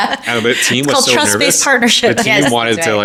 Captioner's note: laughing